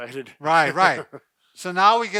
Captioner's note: laughing